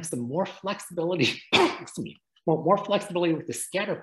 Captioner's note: sneezes